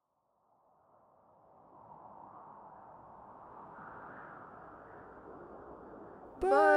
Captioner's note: wind churns